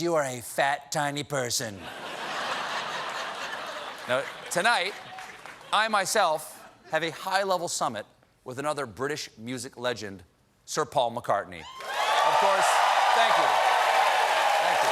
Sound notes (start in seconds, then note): 1.8 laughter; 11.6 cheers and applause